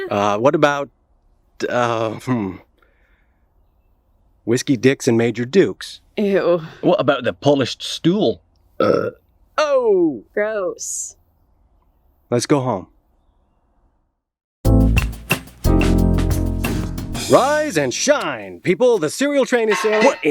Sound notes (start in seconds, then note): 8.8 burp